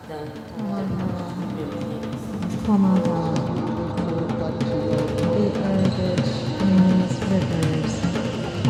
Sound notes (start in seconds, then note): 0.0 percussive music; 1.1 Sawako reciting